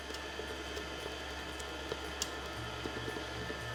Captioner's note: mixer whirring